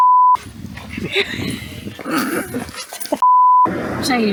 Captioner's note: laughter